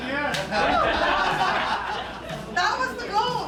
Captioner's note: laughs